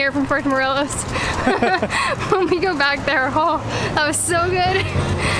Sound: laughter

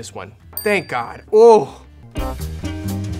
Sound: bell dings; jazzy music

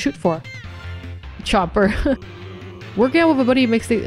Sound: chuckles

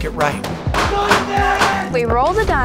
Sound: shots ringing; person yelling

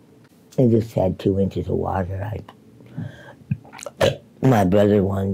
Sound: belches

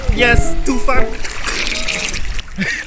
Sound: drowning

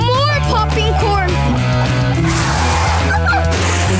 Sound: howling

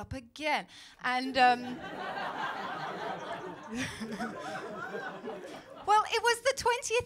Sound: laughter

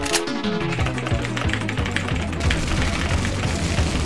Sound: vigorous Typing

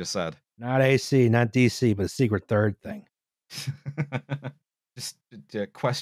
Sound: laughs

